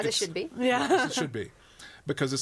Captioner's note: laughs